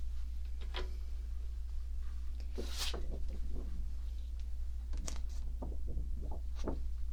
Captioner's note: moving paper